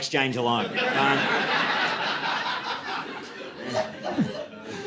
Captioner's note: audience laughing